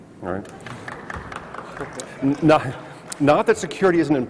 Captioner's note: clapping